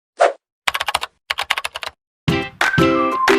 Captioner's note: screen whooshing; keyboard clacking; lively music